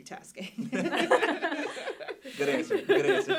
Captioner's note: group laughing